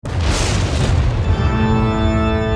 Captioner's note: thunder crashing